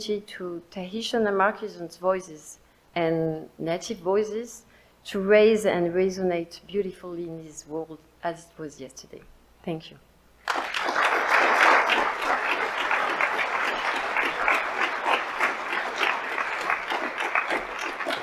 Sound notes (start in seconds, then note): 10.4 audience applauds